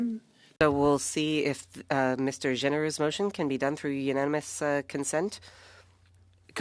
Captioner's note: speaking French